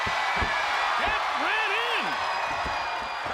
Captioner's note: crowd cheering